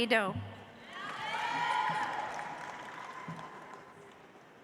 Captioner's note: audience applauds